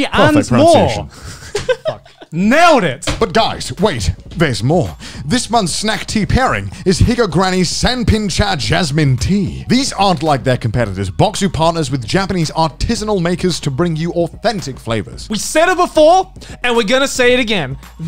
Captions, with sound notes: And more! - Perfect pronunciation. (laughing) - Fuck. Nailed it! - But guys wait, there's more! This month snack tea pairing is Higa Granny's Sanpin Cha Jasmine Tea. These aren't like their competitors box who partners with Japanese artisanal makers to bring you authentic flavors. - We said it before and we're gonna say it again.